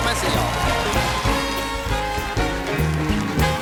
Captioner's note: band playing; cheers and applause